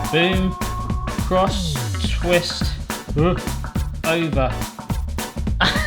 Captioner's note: making comical sound effects; groans